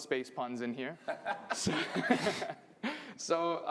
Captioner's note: laughter